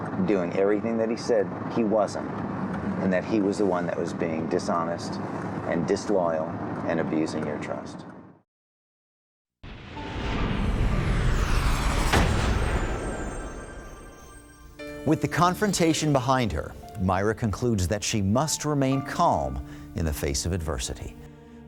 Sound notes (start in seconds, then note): 9.6 whooshes